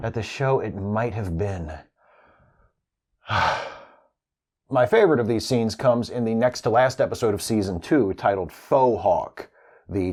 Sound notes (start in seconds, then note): 3.2 sighhhh